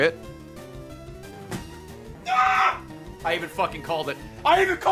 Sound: screams

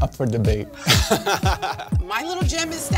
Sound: they laugh

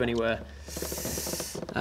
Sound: tsssssssh

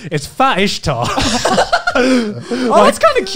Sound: laughs

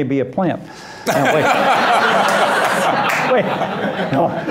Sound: loud laughter

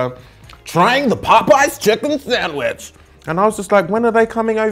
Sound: American accent

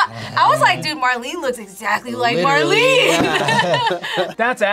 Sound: laughs

